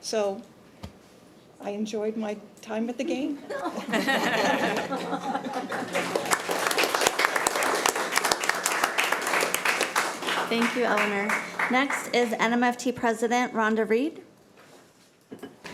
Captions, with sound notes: So I enjoyed my time at the game. (committee laughing and applauding) - Thank you, Eleanor. Next is NMFT President, Rhonda Reid.